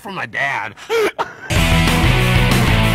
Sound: group laughing; rock music

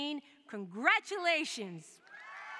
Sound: cheering

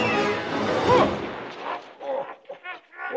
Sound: ghost chuckling and scrooge grunting; ghost grunts

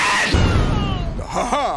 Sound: in Pops Racer's voice; cry of pain; explosion

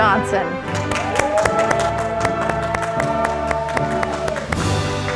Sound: audience applauding

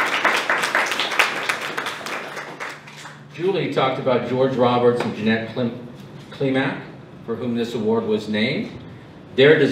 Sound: applause

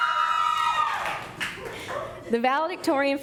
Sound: cheering

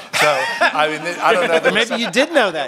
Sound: laughter

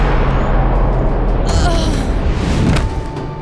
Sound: groaning

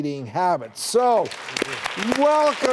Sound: crowd clapping

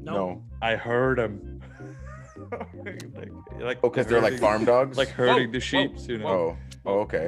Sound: laugh

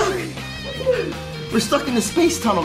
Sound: kids laughing

